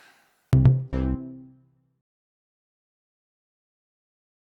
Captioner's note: bouncy effect